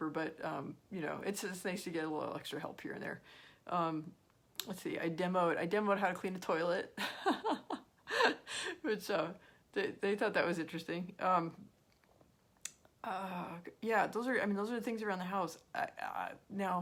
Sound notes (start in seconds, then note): 7.0 laughs